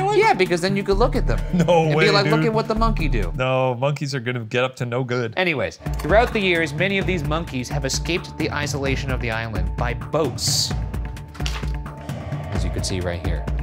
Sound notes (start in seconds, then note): 1.4 laughs; 5.7 film clicking; 11.4 paper fluttering